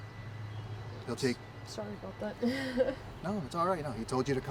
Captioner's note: risitas